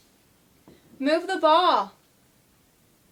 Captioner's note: footsteps tapping